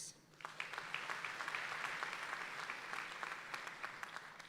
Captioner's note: audience applauding